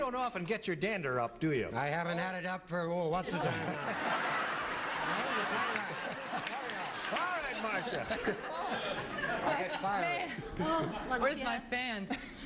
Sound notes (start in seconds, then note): 4.6 laughing